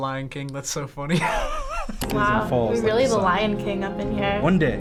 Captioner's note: laughs